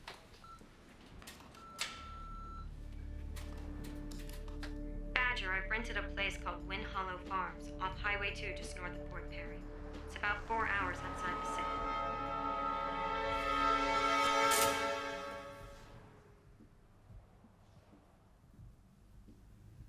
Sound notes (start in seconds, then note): 1.2 beeping; 12.3 tense suspenseful music